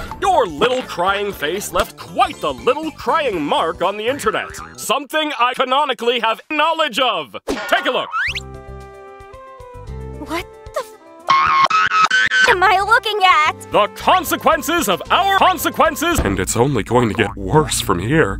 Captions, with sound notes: Your little crying face left quite the little crying mark on the internet. SOMETHING SOMETHING I CANONICALLY SOMETHING I CANONICALLY HAVE SOMETHING I CANONICALLY HAVE KNOWLEDGE OF Take a look! What the F- *boing* *Boing* *BOING* am I looking at? The consequences of our The consequences of our consequences And it's only going to get worse from here.